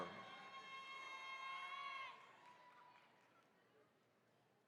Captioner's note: attendees cheering